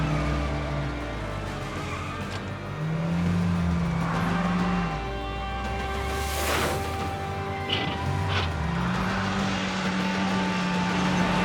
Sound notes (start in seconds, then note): 0.2 tires screeching; 5.7 water splashing